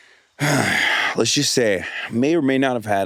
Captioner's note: Hasan sighs